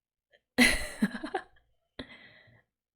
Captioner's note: laughs